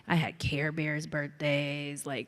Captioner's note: none